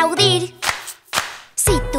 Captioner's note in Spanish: Aplausos